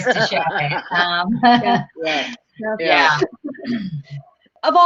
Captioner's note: all chuckling